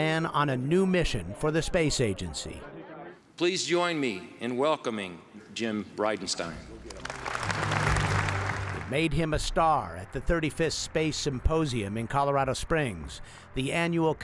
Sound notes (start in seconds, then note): 6.8 applause